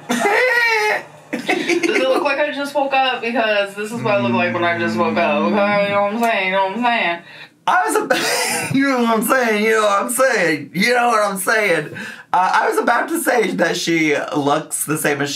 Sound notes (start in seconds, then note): 0.0 laughs; 8.6 laughs